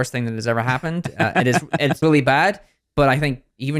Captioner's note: laughs